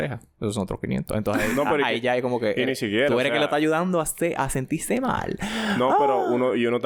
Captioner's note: laughs